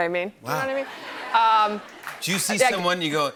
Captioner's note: laughing